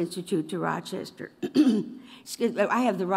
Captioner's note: coughs